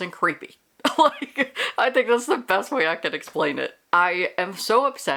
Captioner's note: laughs